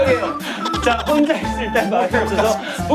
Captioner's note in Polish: Śmiech